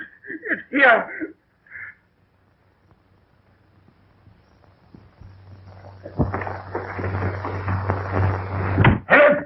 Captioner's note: crying